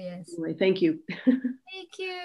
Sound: laughs

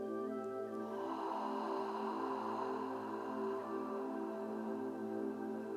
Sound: ahhhhhhh

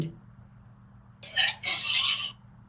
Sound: barfing

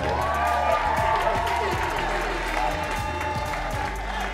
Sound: cheering

